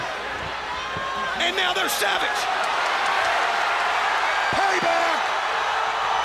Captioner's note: crowd cheering